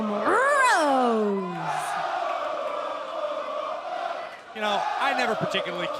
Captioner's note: crowd cheering